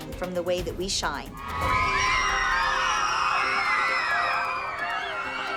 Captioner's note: screaming